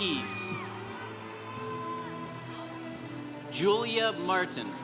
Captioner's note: congregation cheering